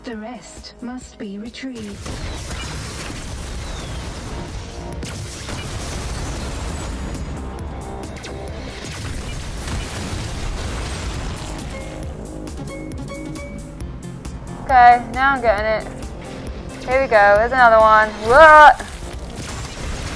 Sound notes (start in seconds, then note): 2.9 lasers firing; 5.6 lasers firing; 5.6 shots exploding; 11.4 beeping; 18.4 yelling; 18.8 shot exploding